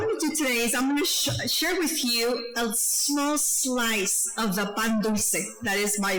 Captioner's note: speaking foreign language